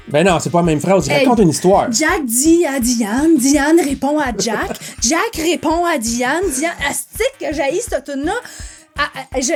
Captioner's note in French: rires